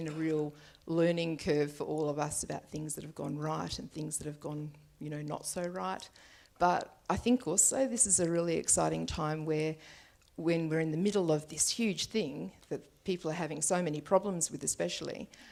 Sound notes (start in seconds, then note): none